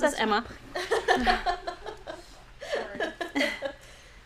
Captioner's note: laughing